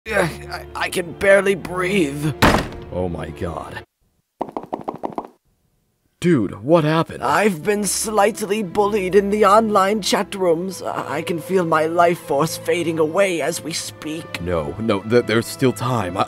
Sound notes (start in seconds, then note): 2.4 loud fucking door sound; 4.4 normal footsteps